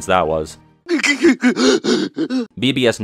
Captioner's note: Panicked Hook grunts